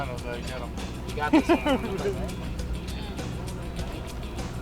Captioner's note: man laughs